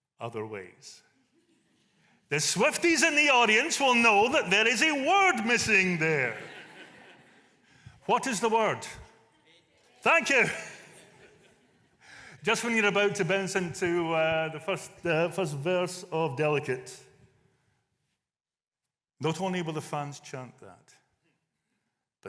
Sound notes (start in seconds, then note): 10.0 audience response